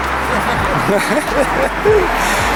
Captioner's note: they both laugh XD XD XD